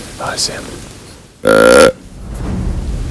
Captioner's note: sound of grunt call